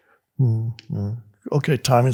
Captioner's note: Eckhart moans